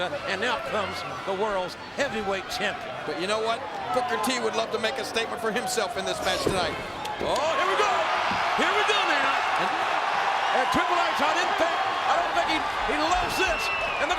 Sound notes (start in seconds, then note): 9.7 crowd cheering